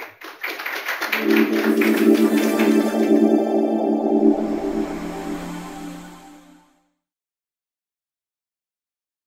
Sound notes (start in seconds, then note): 3.1 applause; 4.1 techno music